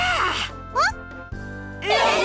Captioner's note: surprised